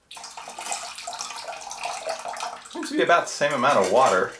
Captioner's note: water pouring